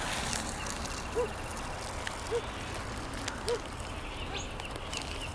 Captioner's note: birds chirping